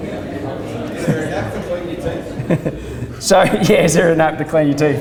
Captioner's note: voiceover; laughs